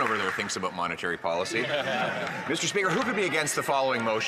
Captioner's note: some Applause